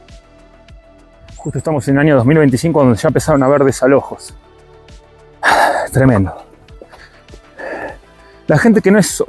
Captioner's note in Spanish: carraspeo